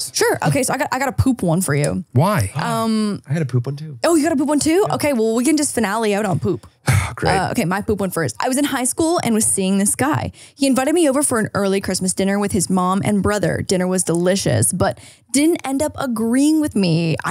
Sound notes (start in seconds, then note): 3.4 gasps; 6.8 sighs